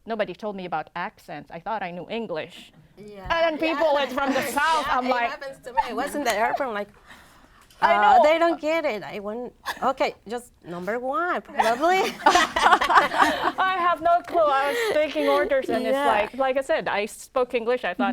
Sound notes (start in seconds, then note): 11.6 laughter